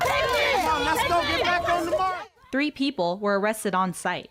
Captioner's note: yelling